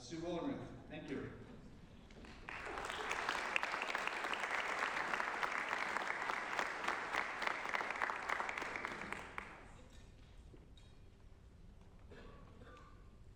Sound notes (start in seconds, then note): 2.1 applause